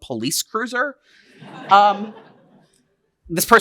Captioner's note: laughter